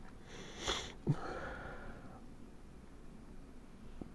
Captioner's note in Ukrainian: сопіння